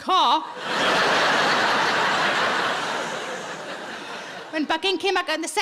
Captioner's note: audience laughing